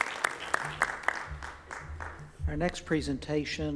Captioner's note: applause